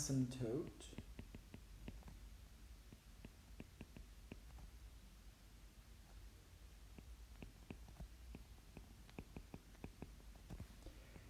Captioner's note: writing